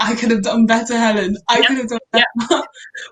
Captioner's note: laughing